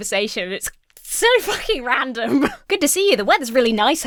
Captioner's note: Emma laughs